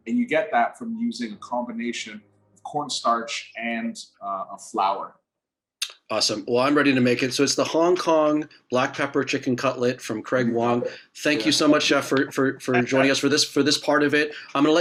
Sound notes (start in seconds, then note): 12.7 laughing